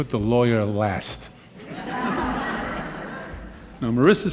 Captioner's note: laughing